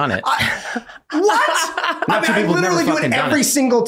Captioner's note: laughing